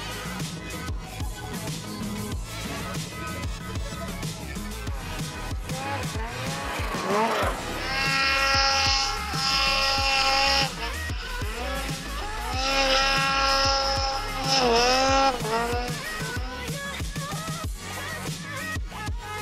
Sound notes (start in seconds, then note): 0.2 upbeat music; 6.4 Ski-Doo motor running